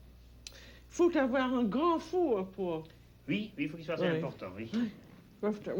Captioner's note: both conversing in French